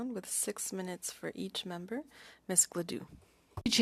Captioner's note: speaking French